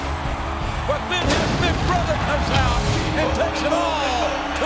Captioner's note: fireworks boom